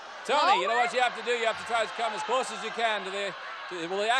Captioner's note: audience yelling